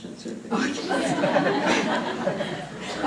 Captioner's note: laughter